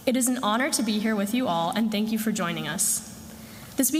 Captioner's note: none